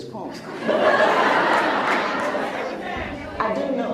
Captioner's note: laughs